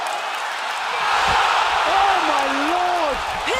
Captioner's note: crowd cheering